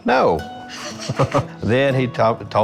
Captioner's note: laughing